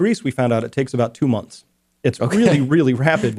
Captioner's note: laughs